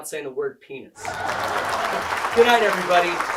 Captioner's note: audience laughs